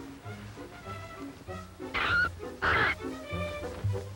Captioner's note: caw